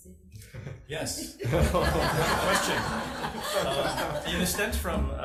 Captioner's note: audience laughing